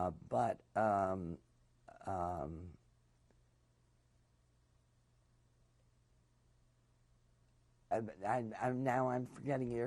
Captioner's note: pauses for 7 seconds